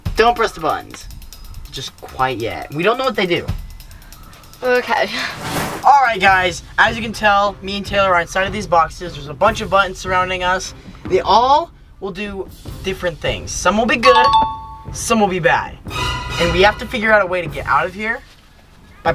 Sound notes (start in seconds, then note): 5.3 air whooshing; 14.0 bell dinging; 15.8 suspenseful music